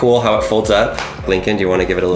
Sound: snapping sound

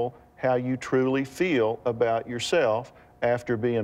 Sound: none

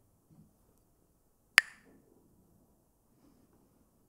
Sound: Mooji clacks the sticks

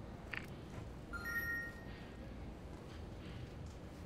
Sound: loud beep

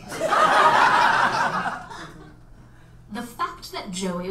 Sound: audience laughs

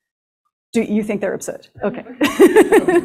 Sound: laughs

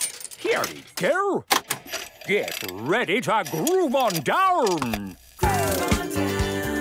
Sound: clicks, whirring; disco music plays

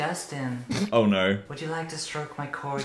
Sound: laughing; laughs

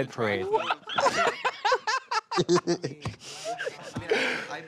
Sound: laughing

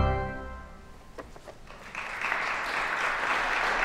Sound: applause

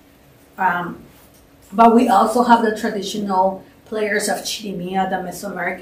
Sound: non-english

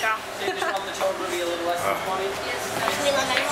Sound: laughter; background talking

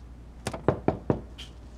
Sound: knocking on the door

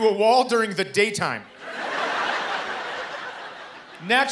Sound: laughter

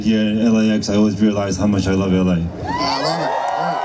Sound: crowd cheers

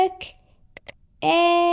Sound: click!

